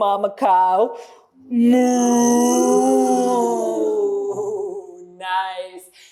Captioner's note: cow sound